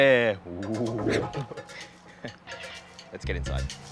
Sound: chuckles

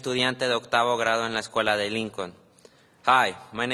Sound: speaking spanish

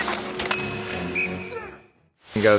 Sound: whistle blows

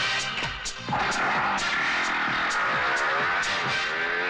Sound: motorcycles Engine Starting

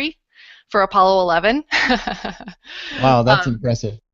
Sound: laughter

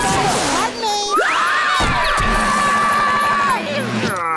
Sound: screaming

